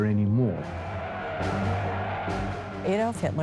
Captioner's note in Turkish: Kalabalık tezahürat ediyor